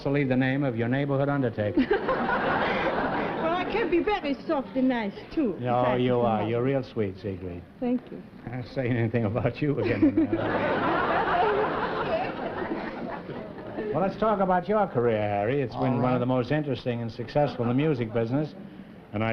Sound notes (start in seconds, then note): 1.7 laughter; 9.8 laughter